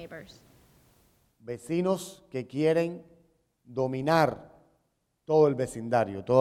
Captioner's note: speaking in Spanish